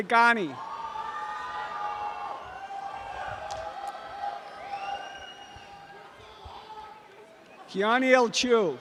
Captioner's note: audience cheering and applause